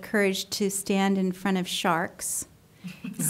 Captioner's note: polite laughter